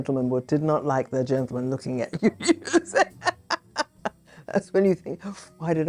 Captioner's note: laughs